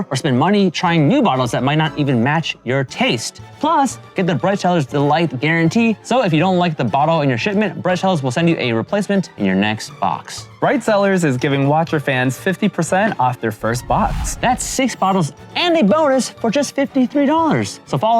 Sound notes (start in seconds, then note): none